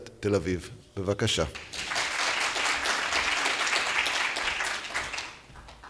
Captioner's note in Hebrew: מחיאות כפיים